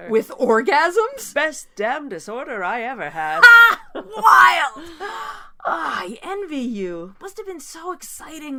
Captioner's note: sighs